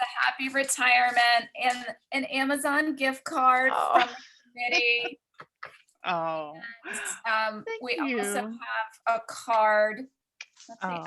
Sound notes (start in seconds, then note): 4.6 laughs